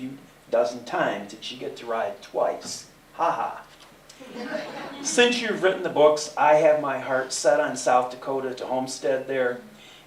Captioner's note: laughter